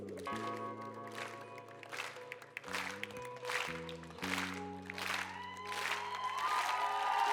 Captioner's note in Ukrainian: оплески